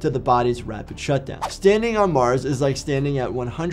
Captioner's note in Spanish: transición silbante